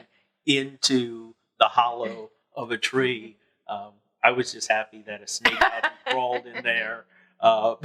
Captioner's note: laughing